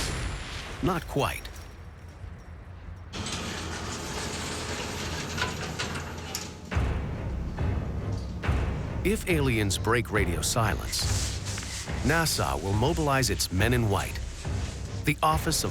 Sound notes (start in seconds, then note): 3.1 door opening; 6.3 suspenseful music